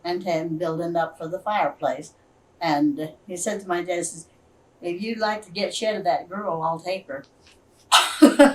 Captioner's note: laughs